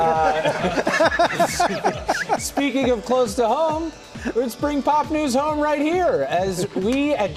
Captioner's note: laughter